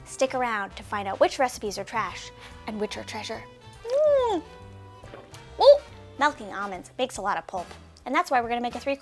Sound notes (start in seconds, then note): 4.6 slurping